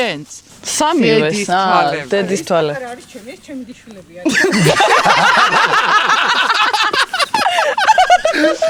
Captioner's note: everyone bursts out laughing